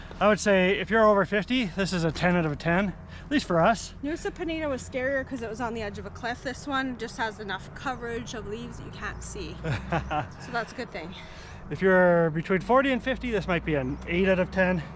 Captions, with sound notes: I would say if you're over 50, this is a 10 out of 10, at least for us. Nusa Penida was scarier 'cause it was on the edge of a cliff. This one just has enough coverage of leaves that you can't see. -[laughs] -So that's a good thing. If you're between 40 and 50, this might be an 8 out of 10.